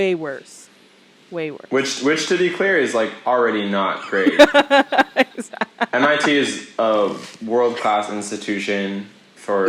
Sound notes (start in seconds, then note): 4.0 laughs